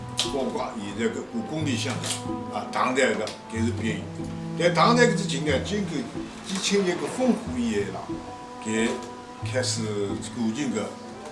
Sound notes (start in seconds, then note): 2.1 wu Chinese; 3.8 wu Chinese; 5.5 wu Chinese; 7.7 wu Chinese; 10.4 wu Chinese